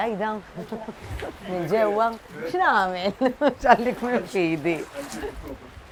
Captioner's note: laughs